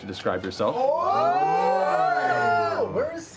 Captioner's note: exclamations of excitement